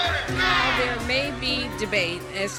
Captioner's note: crowd